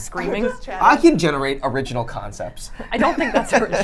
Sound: laughs

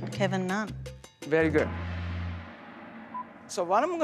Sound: gong clashes

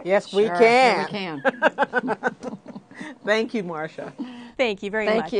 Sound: laughter

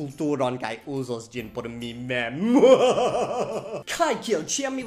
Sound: evil laugh

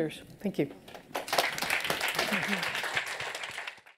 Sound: applause

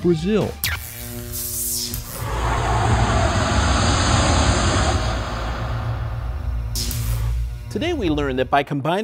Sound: sound Effects

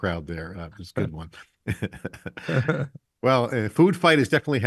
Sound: chuckling

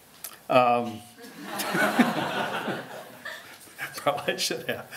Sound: laughter

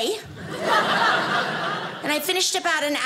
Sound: audience laughing

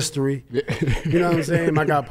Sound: laughs

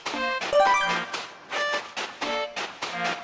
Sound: footsteps

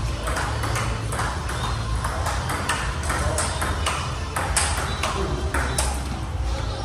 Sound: ball tapping rapidly

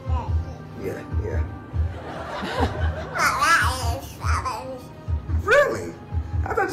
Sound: baby babbles; audience laughs

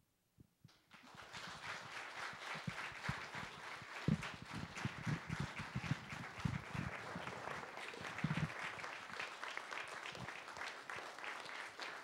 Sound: applause

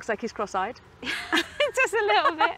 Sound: both laugh

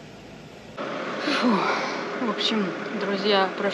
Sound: sighs heavily

